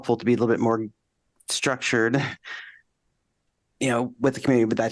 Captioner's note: laughter